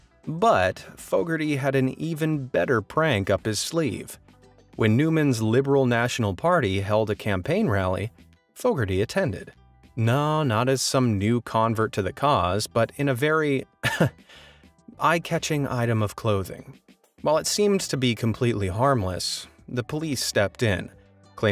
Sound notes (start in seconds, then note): 13.8 laughs